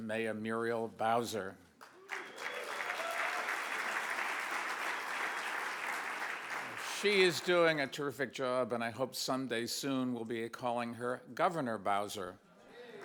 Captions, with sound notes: Mayor Muriel Bowser. (audience applauds) She is doing a terrific job and I hope some day soon we'll be calling her, Governor Bowser.